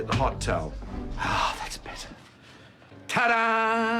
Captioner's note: sighs